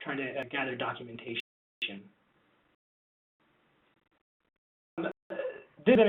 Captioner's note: static interruption